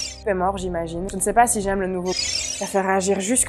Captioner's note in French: bip; bip